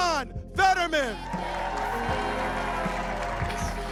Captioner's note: audience applauding